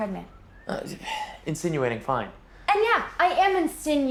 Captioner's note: sighs